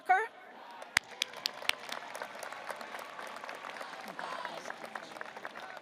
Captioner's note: audience applauding